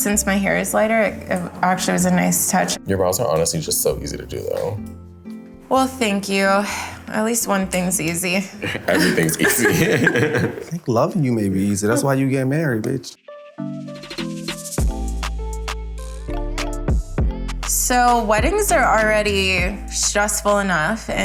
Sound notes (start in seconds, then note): 8.6 Jordyn laughs; 8.6 laughs; 13.6 upbeat music